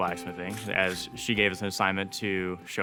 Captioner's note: tool scraping